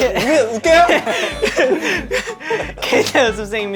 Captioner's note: sobs